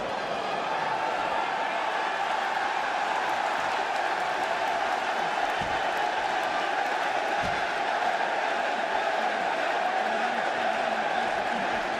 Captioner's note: crowd cheering